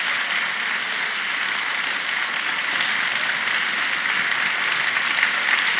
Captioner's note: applause